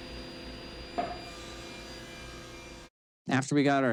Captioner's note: saws buzzing